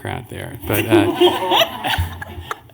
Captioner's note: laughter